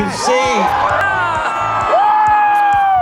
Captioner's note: cheers